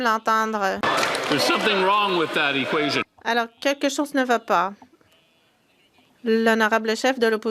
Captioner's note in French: voix de l'interprète